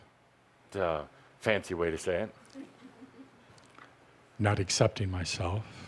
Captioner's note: laughter